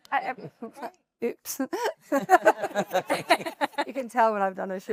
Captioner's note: laughs